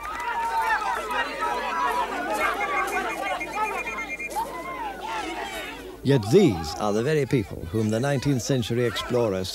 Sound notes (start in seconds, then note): 0.0 cheering; 2.4 whistle blows